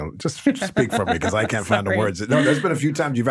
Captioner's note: laughing